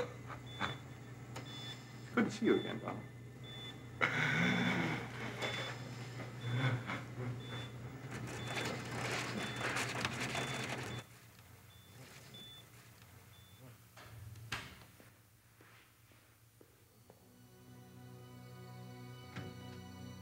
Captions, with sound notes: Good to see you again, Donald. (Donald gasping) (solemn music)